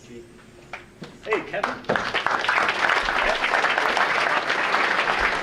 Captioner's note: audience applauding